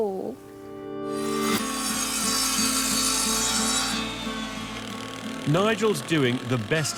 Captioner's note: upbeat music; machine whirring